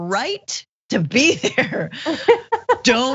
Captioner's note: laugh